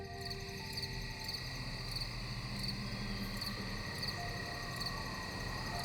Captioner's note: crickets chirping